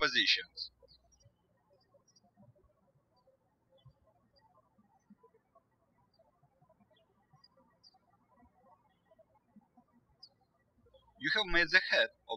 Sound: birds chirping

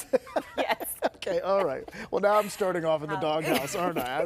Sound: laughter

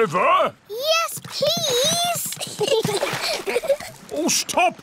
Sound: giggles

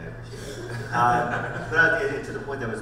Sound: panel laughs

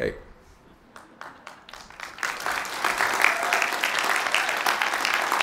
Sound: applause

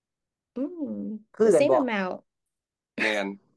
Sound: speaking in Isaan dialect

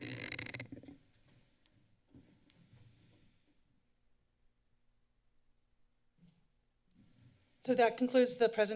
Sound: silence

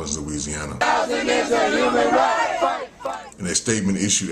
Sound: crowd chants: Housing is a human right, fight!

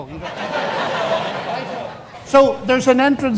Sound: audience laughs

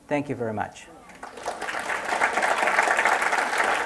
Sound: applause

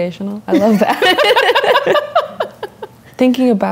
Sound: laughter

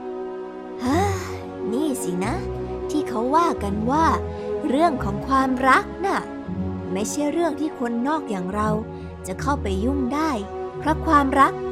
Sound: sighs

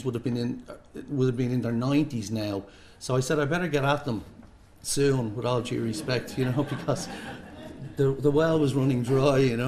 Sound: laughter

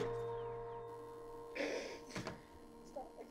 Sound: muffled laughter

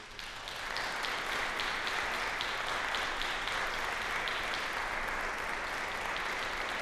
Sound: applause

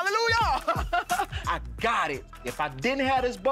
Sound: laughs

